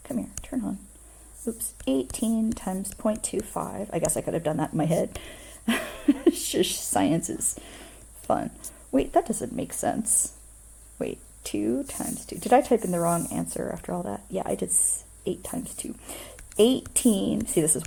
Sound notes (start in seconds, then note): 5.7 laughter